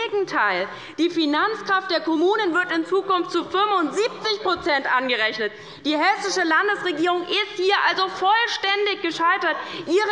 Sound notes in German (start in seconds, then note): none